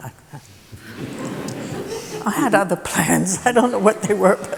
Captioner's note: laughter